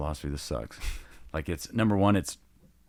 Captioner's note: laughing gently